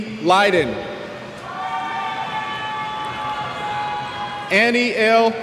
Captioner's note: cheers